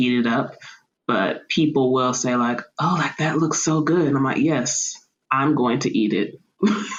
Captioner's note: laughter